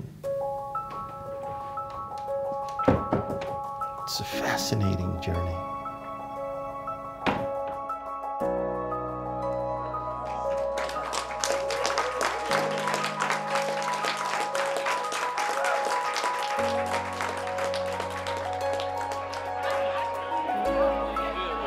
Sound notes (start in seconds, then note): 0.2 piano music; 7.2 door clangs; 10.2 audience applauds